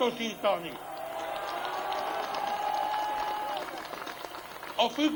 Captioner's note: applause